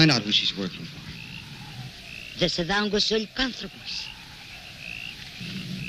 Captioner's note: speaking in foreign language